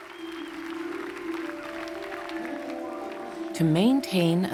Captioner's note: audience applauding